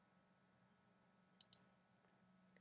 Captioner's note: clicking sound